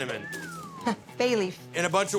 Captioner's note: whistles